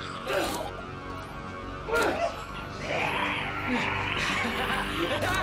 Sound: blows thudding; grunting; laughing; snarling

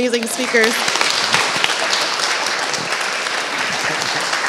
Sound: applause

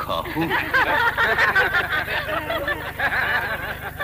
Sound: 🤣laughter

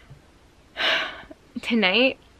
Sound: happy sigh

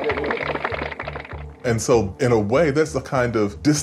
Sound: applause

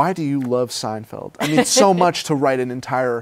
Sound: laughs

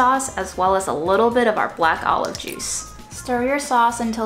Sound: juice trickling

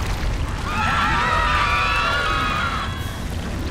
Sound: screaming

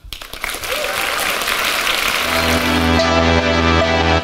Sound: audience clapping; upbeat music

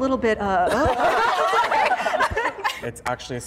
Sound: all laughing

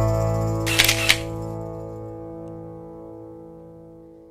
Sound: camera clicks

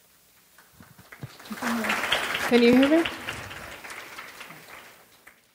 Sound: audience applauding

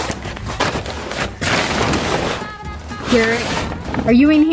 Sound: rustling

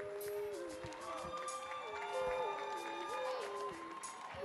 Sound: audience cheering

